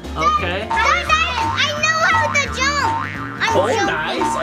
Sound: bouncing spring effect

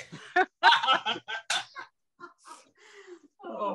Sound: all laughing

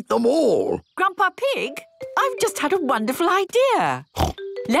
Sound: snort

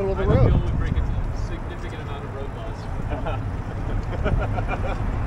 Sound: laughs

